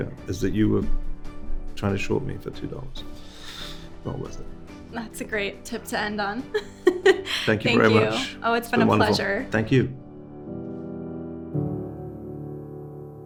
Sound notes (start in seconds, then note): 6.8 host laughing; 10.4 gentle music